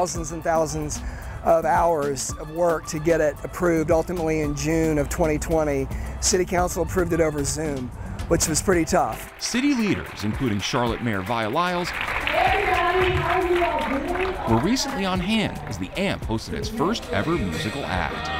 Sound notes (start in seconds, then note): 11.9 crowd applauding